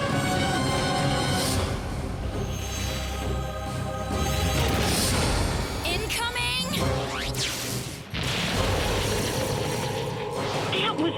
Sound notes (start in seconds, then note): 6.3 engine whirs, rockets blast; 9.9 explosive impacts